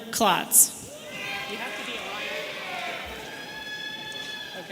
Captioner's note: audience cheering